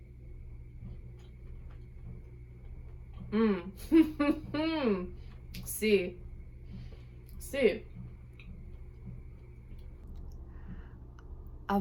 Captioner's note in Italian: ridendo